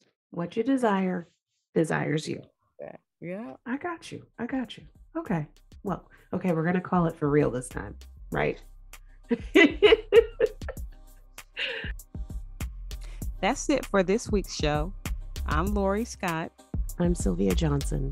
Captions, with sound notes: What your desire. Desires you. Yeah, I got you. I got you. Okay. Well, okay, we're going to call it for real this time. [Laughs] That's it for this week's show. I'm Lori Scott. I'm Sylvia Johnson.